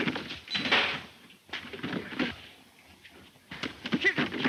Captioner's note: bodies scuffling